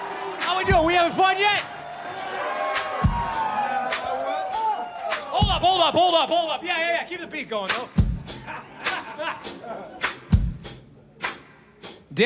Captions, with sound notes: How we doing, we having fun yet? (audience cheers) (lively drum music) Hold up, hold up, hold up, hold up. Yeah, yeah, yeah, keep the beat going though. (band members laugh) (lively drum music)